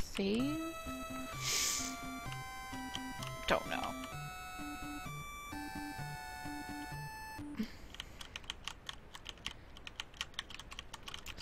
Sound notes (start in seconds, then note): 1.4 sighs; 7.8 keyboard clicking